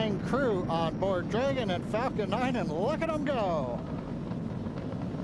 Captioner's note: engine Roaring